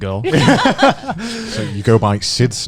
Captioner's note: laughing